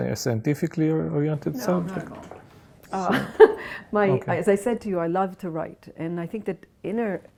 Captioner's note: laughs